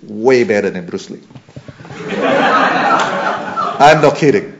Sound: laughter

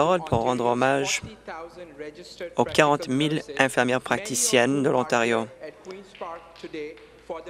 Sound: some Applause

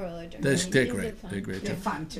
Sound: voiceover

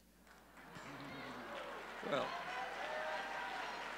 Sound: audience cheering

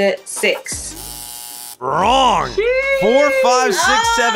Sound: buzzer

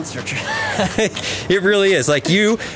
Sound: laughing

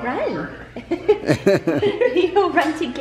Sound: giggles

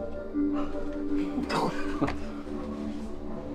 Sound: laughing

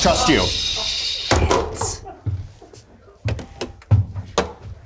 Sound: phone thuds

